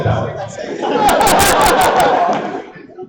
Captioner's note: laughter